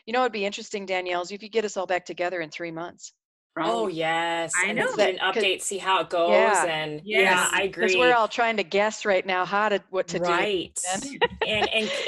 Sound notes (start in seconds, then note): 4.5 murmurs; 10.8 laughs